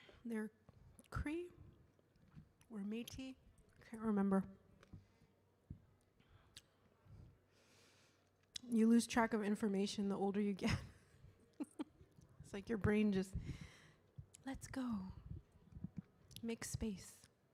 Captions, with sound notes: and they're Cree or Metis, can't remember. You lose track of information, the older you get. (laughs) It's like your brain just lets go, makes space.